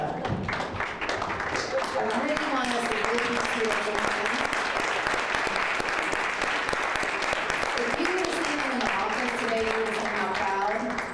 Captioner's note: applause